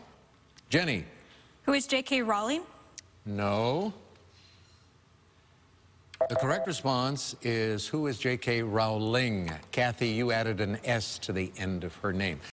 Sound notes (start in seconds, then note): 6.2 beep